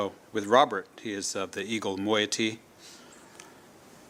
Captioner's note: speaking tlingit